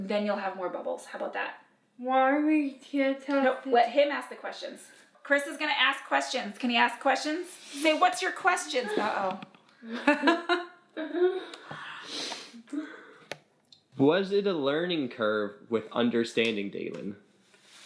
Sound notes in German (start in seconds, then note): 8.6 lacht